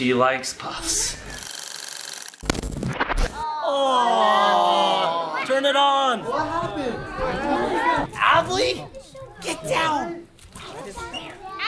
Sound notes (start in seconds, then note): 1.6 projector rolling; 3.4 everyone groaning